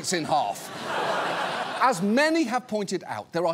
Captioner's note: laughter